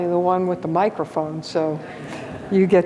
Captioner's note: audience laughs